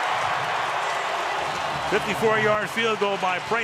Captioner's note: cheering